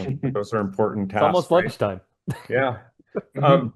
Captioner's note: laughs